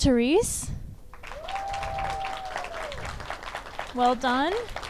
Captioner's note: audience applauds and cheers